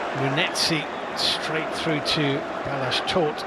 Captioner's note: audience oohs; cheers and applause